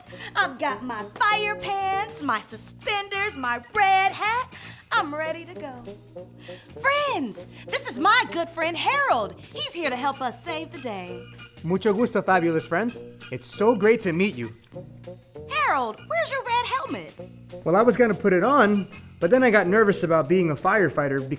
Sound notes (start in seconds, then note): 11.5 spanish